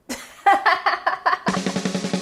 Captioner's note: laughing; upbeat music